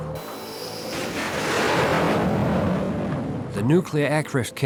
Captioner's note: airplane engine roars